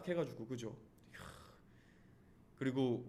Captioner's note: exclamation